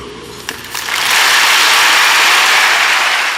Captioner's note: applause